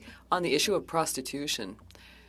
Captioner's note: speaking French